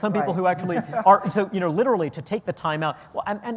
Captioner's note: laughter